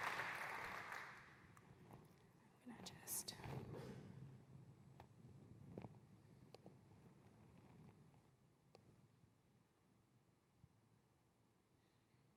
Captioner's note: applause